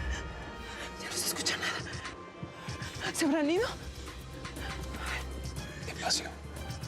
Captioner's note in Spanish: susurra